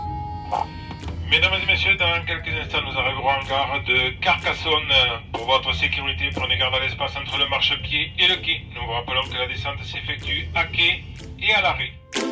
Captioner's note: train announcement in French